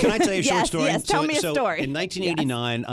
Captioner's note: laughs